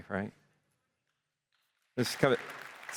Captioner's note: applause